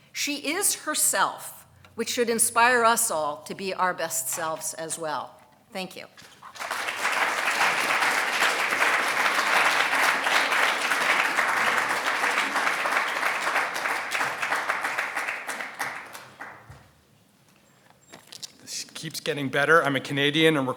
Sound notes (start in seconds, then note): 6.7 audience applauding